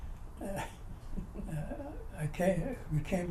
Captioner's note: laughter